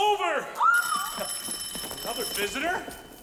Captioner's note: bell ringing